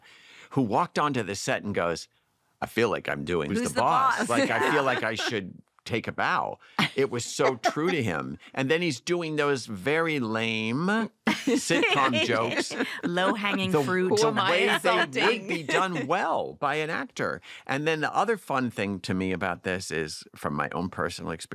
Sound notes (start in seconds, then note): 11.2 laughter